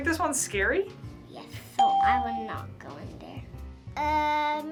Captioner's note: ding